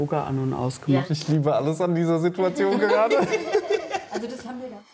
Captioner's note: laughing